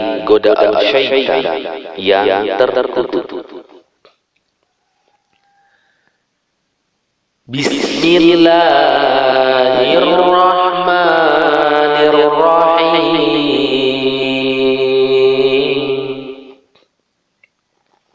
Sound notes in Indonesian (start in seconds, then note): 7.1 dalam bahasa Arab